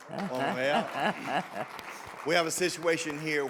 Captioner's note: audience clapping